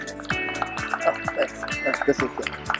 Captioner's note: upbeat music; audience applause